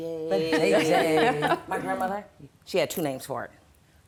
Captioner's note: laughter